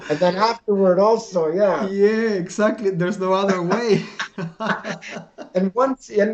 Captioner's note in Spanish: Risas